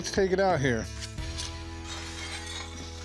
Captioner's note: clanks